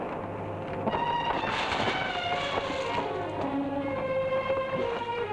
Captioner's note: water splashing